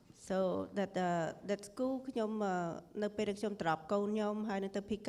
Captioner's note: speaking foreign language